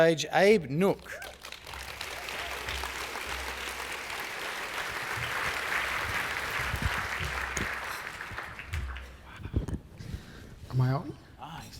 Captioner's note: applause